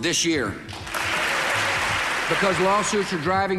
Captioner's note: attendees cheering and applauding